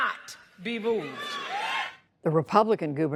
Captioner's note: cheering and applause